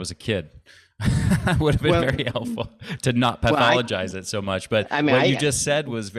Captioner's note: chuckles